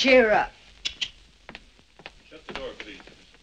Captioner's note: clicking tongue